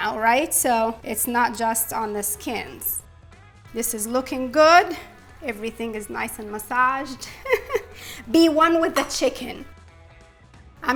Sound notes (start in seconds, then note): 7.0 laughs